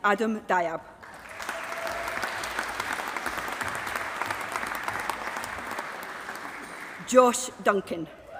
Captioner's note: applause